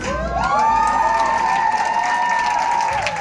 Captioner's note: applause, cheering